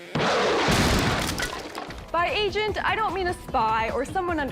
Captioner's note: rocket blast; crash